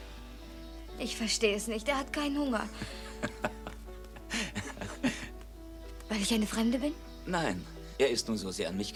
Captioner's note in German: gelächter